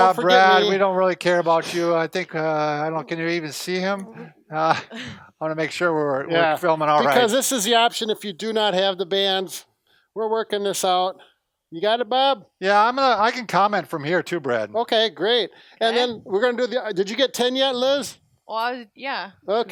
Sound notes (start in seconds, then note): 4.5 laughs